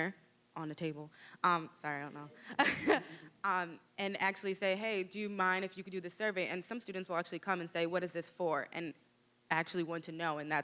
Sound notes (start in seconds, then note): 2.4 laughing